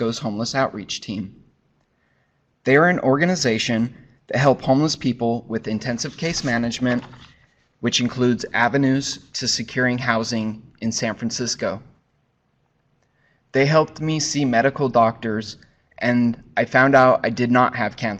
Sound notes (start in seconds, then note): 5.8 papers shuffling